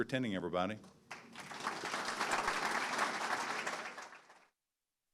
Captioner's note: audience clapping